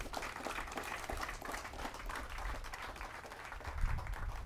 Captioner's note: audience clapping